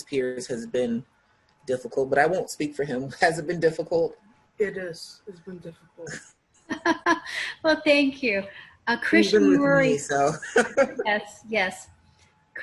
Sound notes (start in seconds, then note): 9.1 laughing